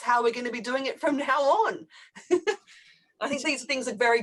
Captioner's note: laughs